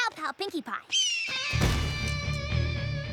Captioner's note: shrieks